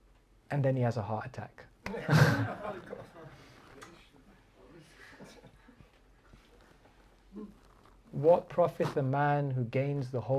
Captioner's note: chuckles